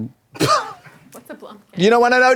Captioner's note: Katya snickers